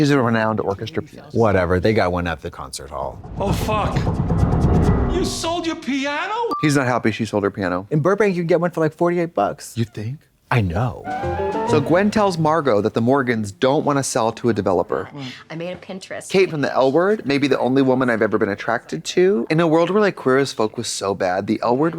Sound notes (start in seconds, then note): 3.2 exciting music; 11.1 bright chime